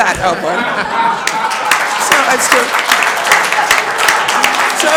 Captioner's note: laughter and applause